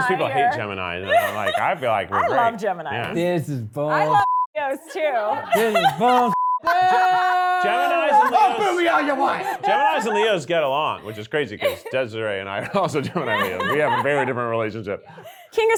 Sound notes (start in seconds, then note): 4.1 beep